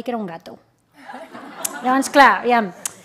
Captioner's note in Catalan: riures